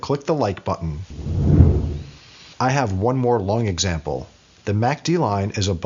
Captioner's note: whooshing